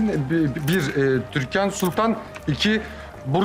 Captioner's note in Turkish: Deklanşör sesi